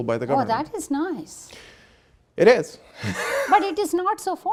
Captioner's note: laughing